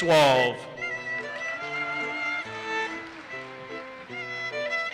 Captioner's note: audience cheers and applauses